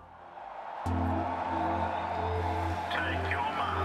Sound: people cheering

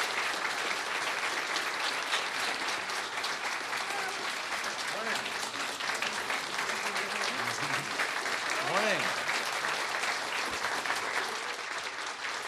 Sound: applause

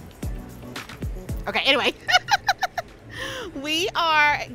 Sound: laughs

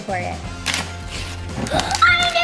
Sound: paper crinkling; gasping

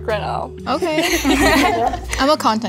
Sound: all giggling

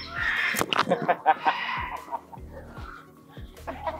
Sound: chuckled

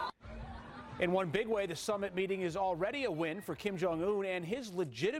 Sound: cheering and applause

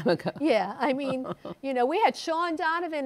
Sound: chuckles

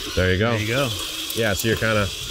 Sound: tool revs

